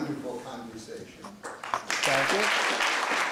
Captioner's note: applause